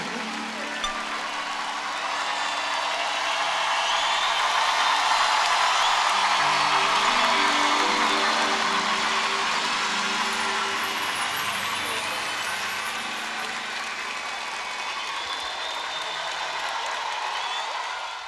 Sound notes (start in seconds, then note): 0.3 aplausos